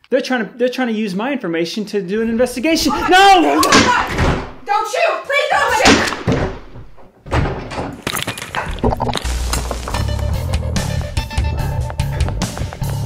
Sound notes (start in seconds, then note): 3.6 gun fires; 5.8 gun fires; 5.8 body thumping; 8.0 lens shattering